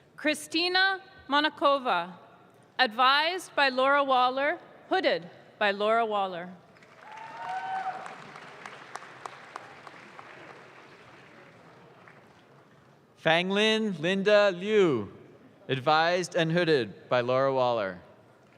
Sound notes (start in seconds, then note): 6.7 audience claps